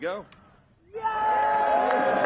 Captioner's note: cheering